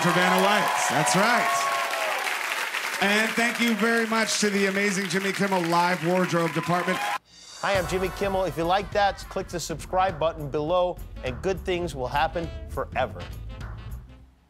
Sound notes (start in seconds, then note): 6.6 applause